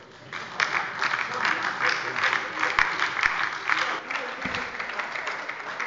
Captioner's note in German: Beifall bei der LINKEN sowie bei Abgeordneten der SPD